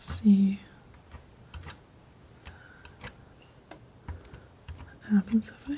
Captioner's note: scissors snipping